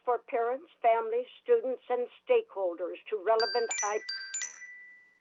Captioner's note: chime